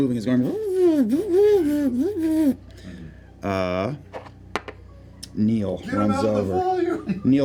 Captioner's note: whirring sounds